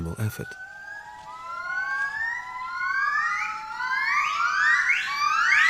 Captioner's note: high-pitched gibbon calls